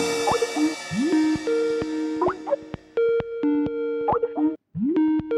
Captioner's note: Skype incoming call